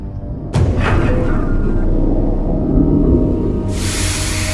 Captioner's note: ship rumbling; gas hissing